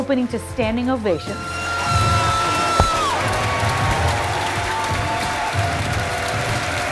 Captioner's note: thunderous applause